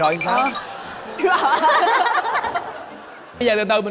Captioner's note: laughing